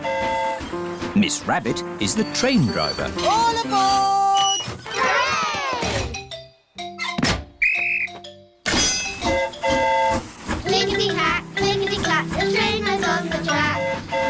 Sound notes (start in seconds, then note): 7.6 blows whistle; 7.6 train horn toots